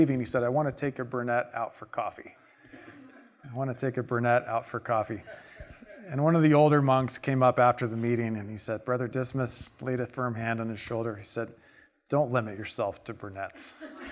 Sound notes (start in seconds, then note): 5.1 audience laughing